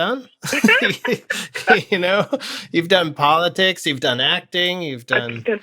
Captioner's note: laughter